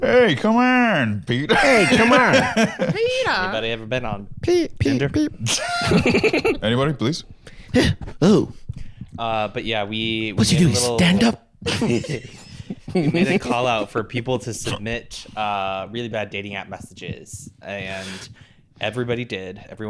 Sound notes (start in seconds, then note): 5.4 giggles